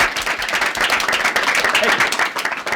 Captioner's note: applause